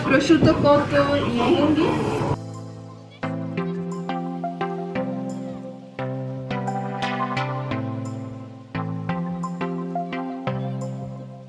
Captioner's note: speaking Italian